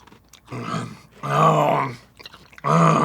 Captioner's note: visceral grumbles of dislike